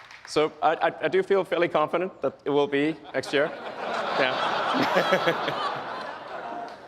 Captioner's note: laughs